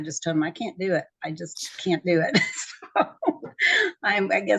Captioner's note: both laughing